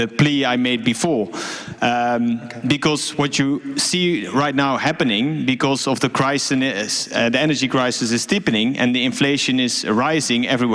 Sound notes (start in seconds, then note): none